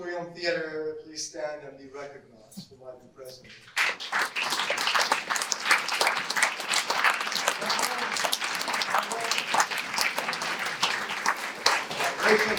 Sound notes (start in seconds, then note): 7.4 audience applause